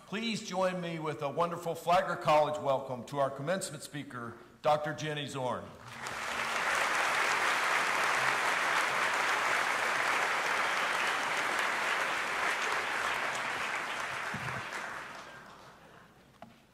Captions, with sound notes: Please join me with a wonderful Flagler College welcome to our commencement speaker, Dr. Jenny Zorn. (audience applauding)